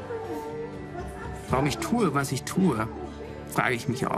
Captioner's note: chatter; non-english speech